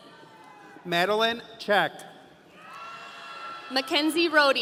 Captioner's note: audience cheering